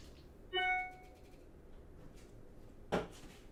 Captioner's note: dinging